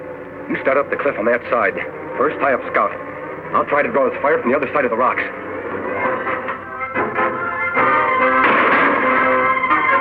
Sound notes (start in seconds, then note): 5.8 exciting instrumental music; 8.4 gunshot fires